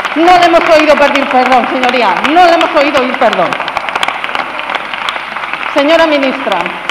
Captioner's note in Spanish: Aplausos